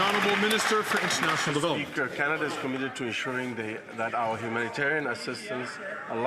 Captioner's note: some Applause